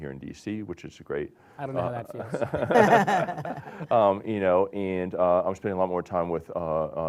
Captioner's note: laughter